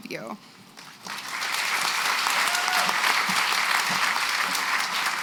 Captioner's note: applause